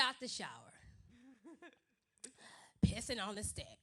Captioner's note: awkward silence